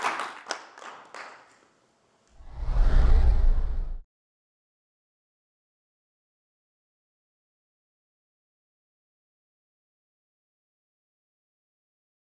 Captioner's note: applause